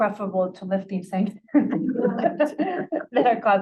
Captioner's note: laughter